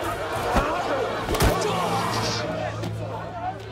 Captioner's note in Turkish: Yumruk sesi